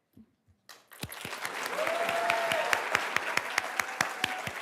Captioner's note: everybody applauds